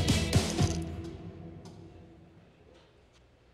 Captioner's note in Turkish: Sessizlik